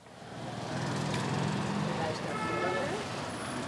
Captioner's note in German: Knatternder Verkehrslärm, Hupen; Stimmengewirr